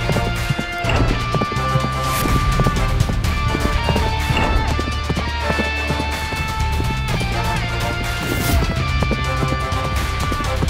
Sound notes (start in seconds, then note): 0.6 horse running